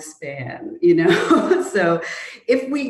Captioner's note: chuckles